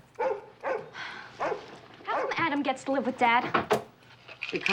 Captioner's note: barking continues; sighs